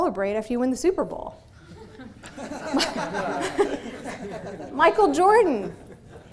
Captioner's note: audience laughing